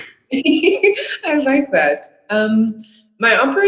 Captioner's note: laughing